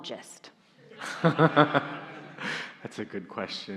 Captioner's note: laughs; audience laughing